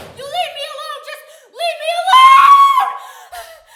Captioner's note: screams; gasping